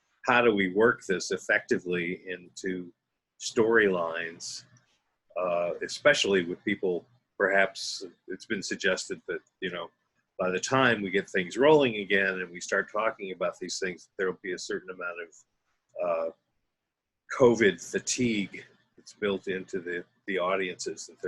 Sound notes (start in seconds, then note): none